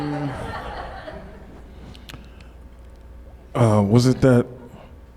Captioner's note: audience laughs